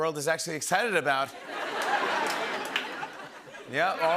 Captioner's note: laughter and applause